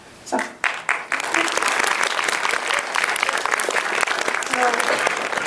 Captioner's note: applause